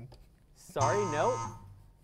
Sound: error buzzer

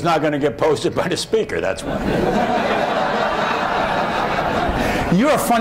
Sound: laughter

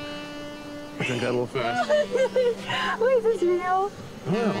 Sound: laughing

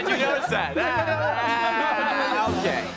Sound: laughing

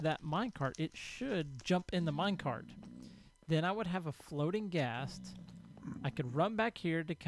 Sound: grunting continues

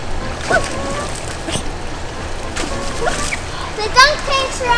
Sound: water splashing

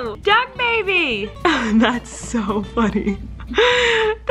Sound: laughing

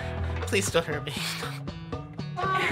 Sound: sobs

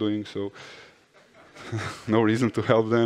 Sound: laughter in the audience

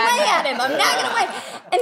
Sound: laughs

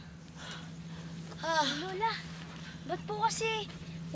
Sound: Ester panting

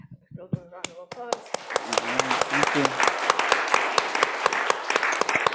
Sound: audience applauding

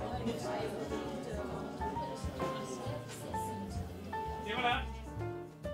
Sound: crowded coffee shop noise

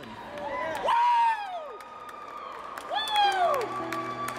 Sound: cheering; slow guitar

